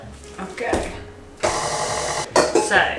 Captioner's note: mixer whirring